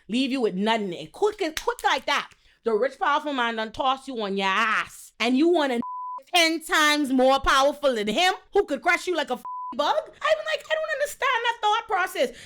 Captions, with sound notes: leave you with nothing, quick and quick like that. The rich powerful man done tossed you on your ass and you wanna (beep) 10 times more powerful than him? Who could crush you like a (beep) bug? I even like, I don't understand that thought process.